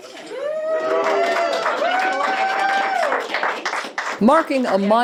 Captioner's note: crowd cheering